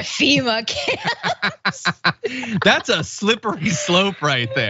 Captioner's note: laugh